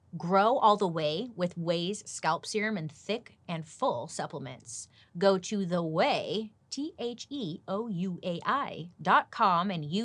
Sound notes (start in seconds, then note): none